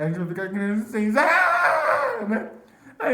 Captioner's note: screams